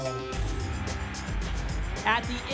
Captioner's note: whoosh